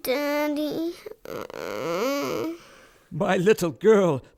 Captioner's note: Lenore groans